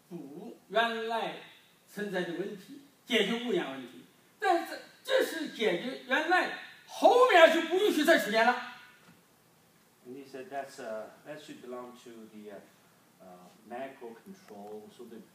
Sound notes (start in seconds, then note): none